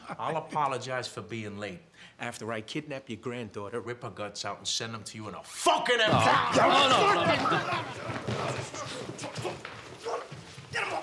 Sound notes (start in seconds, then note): 6.1 chair crashes to floor; 6.6 slams into table; 7.2 yelling